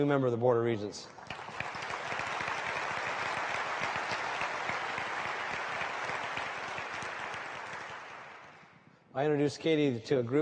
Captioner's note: applause